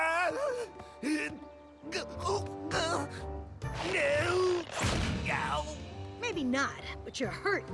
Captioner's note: crash